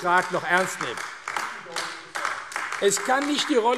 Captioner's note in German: Beifall AfD